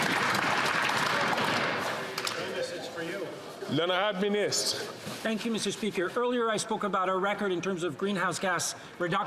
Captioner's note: some Applause